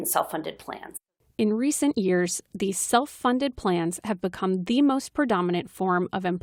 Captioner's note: voice-over